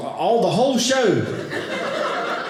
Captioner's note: audience laughing